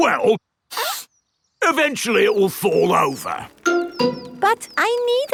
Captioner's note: sniffs